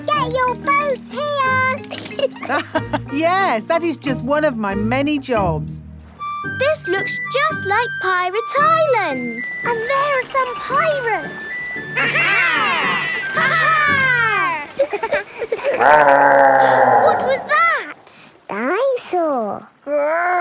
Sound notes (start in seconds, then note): 1.8 laughs; 15.4 laughing; 15.4 growling; 17.2 gasps